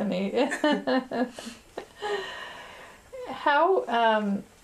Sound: laughter

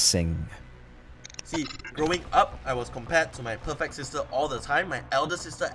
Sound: glitch sound effects

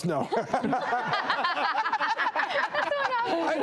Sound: laughter

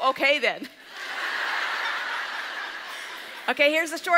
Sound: audience laughs

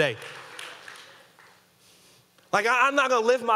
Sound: audience clapping

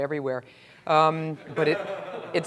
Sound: laugh

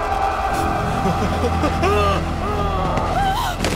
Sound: Shorya screaming

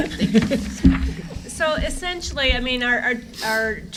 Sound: laughter

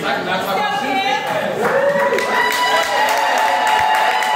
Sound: audience cheers

